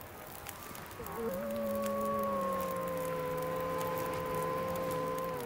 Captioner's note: Aurora Wolf Howls